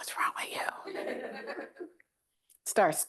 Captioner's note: laughter